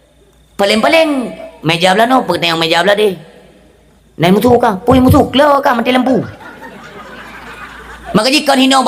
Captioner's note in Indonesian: tertawa